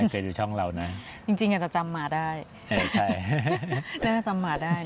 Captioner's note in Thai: เสียงหัวเราะ